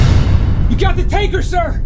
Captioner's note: explosion